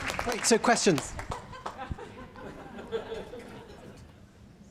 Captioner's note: laughter